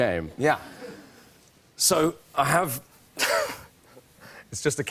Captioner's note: chuckles